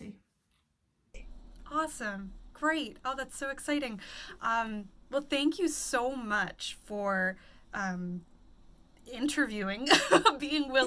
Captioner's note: laugh